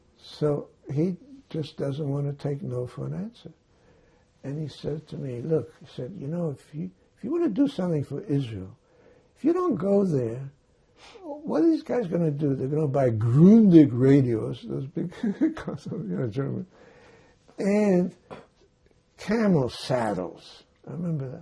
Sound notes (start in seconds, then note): 15.0 laughing